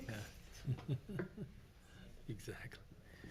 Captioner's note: laughs